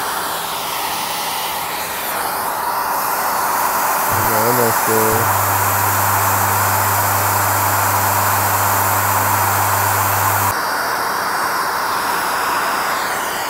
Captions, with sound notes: (loud whirring) We're almost there. (deep humming) (loud whirring)